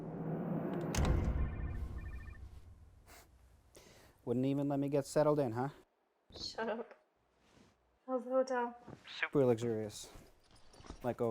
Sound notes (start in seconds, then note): 1.9 cell phone ringing